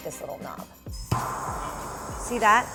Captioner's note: hissing